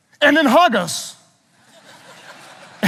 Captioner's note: audience laughing